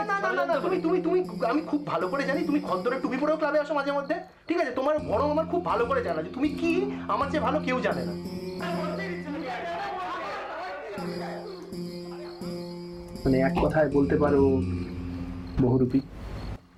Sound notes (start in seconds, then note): 8.5 arguments in the Background